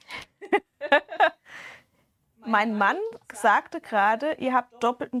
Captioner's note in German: gelächter